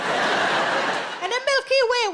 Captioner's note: audience laughs